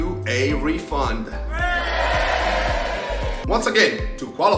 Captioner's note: people cheering